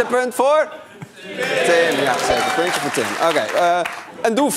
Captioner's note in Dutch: applaus